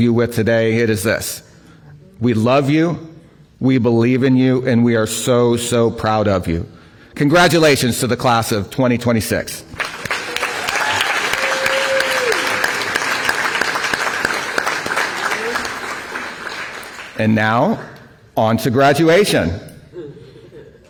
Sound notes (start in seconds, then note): 9.7 applause